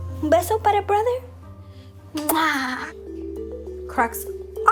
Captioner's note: kissing sound